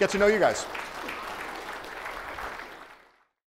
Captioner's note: audience applauds